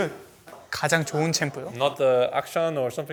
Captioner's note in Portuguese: Coreano